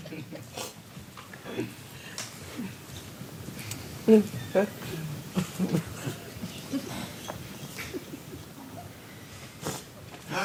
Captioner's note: audience laughs